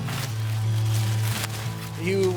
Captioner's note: corn stalks rustling; guitar music